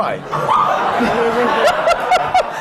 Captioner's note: laughter